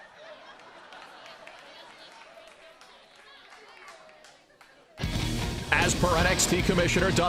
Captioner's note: crowd chatter